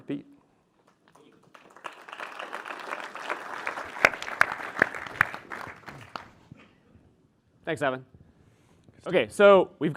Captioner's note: applause